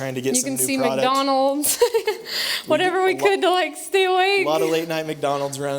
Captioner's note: laughther